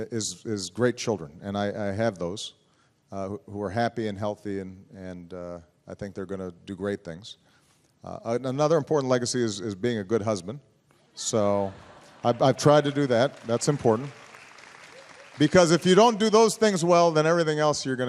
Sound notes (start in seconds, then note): 13.7 applause